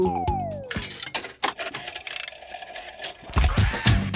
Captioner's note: clicks, whirring; hip hop music plays